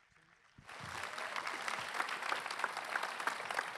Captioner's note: applause